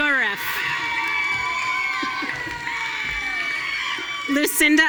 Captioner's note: audience cheering